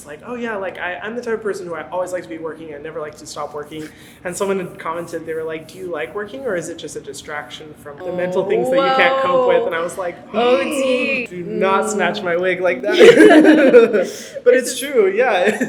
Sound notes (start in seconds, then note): 10.4 gasps; 11.9 laugh